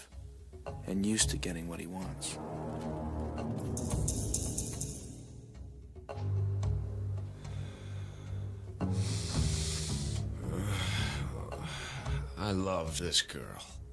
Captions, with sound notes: and used to getting what he wants. (deep scary music) (man grunting) - I love this girl.